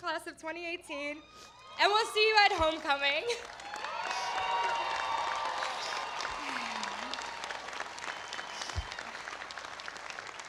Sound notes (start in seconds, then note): 7.3 applause